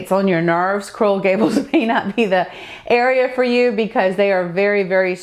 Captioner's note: laughing